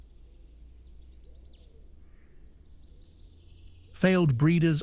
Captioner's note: birds chirping